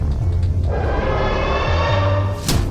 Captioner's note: angry roar; smack